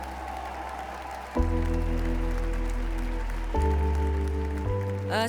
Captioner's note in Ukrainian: оплески